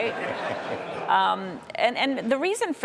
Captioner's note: audience laughing